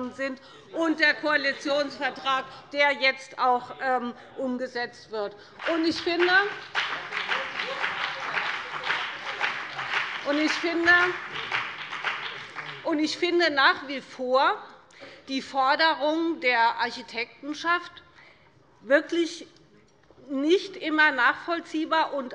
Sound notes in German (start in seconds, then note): 5.5 Beifall BÜNDNIS 90/DIE GRÜNEN und vereinzelt CDU